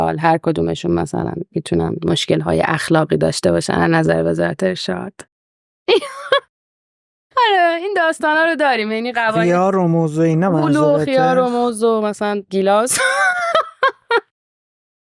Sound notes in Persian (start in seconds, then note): 5.9 خنده; 12.9 خنده